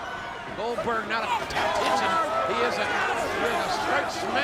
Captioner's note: audience cheers